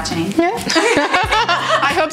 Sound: both laughs

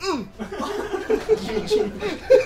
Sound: laughs

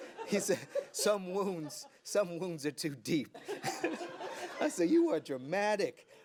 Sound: laughter

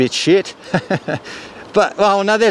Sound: chuckles

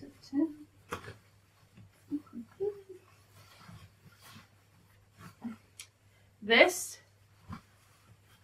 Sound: sound of humming

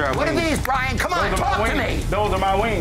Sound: claps

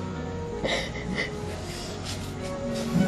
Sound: sobbing

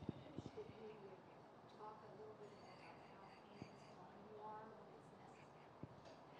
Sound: audience member speaking distantly

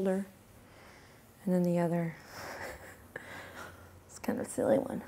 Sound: chuckles

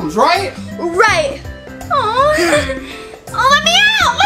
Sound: The Witch sighs

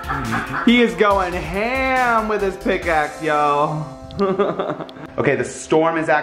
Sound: laughs; laughs

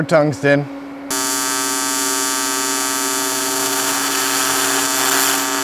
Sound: machine whirring

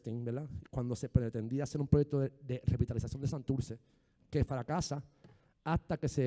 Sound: speaking in foreign language

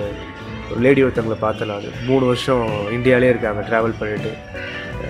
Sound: Spanish

